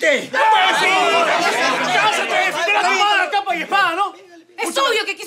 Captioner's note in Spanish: Gritos